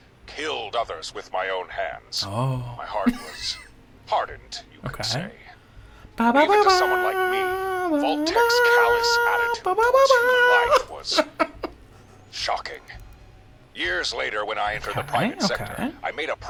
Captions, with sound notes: Oh. (laughing) Okay. (humming) Okay, okay.